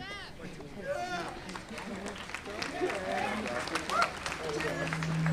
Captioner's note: audience applauding